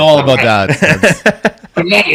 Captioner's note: laughs